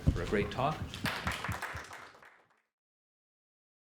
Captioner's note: applause